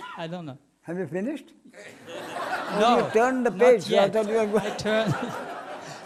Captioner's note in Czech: smích